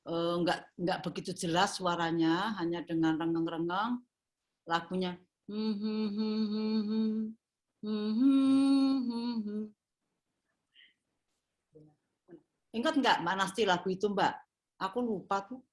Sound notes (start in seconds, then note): 7.8 humming